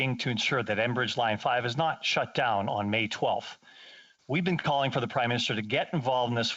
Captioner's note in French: voix de l'interprète